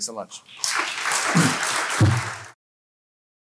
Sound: applause

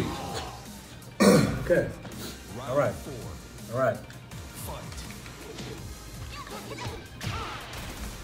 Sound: cough

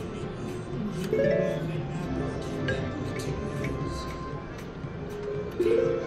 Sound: machine beeps

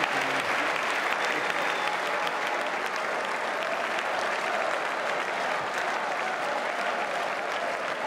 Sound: applause

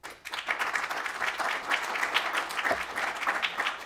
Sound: applause

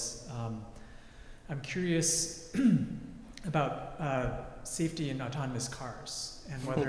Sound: cough; laugh

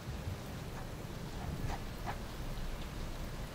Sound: pen scribbles

